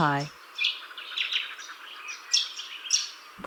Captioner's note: birds chirping